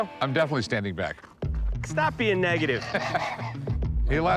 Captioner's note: laughs